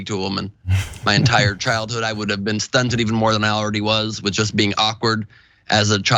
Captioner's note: laugh